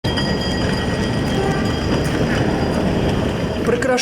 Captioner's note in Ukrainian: звук дзвіночка